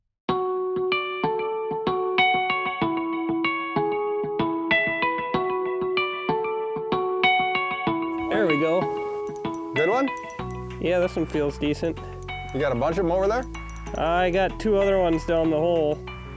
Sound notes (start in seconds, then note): 0.3 gentle music; 9.3 bell ringing